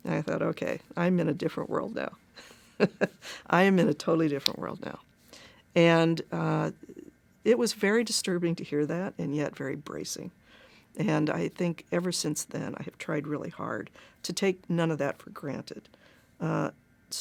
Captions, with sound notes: I thought OK, I'm in a different world now. [CHUCKLES] I'm in a totally different world now. And it was very disturbing to hear that and yet very bracing. And I think ever since then, I have tried really hard to take none of that for granted.